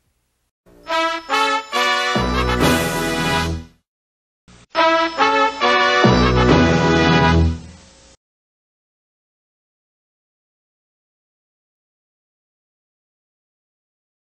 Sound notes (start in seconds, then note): 8.6 silence